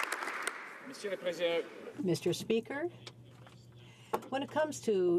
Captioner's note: some Applause